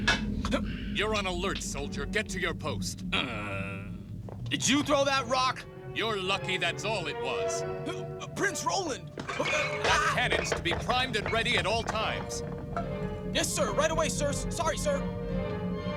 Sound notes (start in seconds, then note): 3.1 groans; 9.7 exclaims